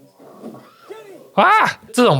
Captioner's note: scream